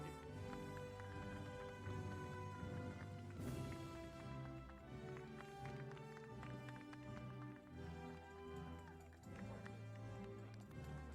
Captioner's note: applause